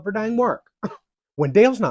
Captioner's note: scoffs